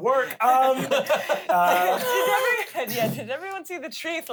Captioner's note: laughs